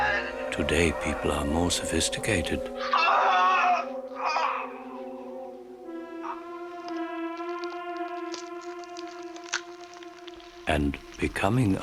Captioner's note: screaming